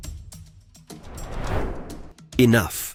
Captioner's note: transition whooshing